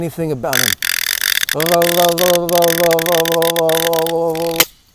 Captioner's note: teeth noises